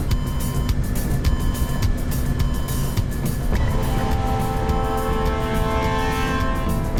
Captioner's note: airplane engines whirring; suspenseful music; upbeat music